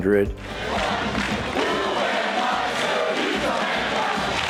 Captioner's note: crowd chanting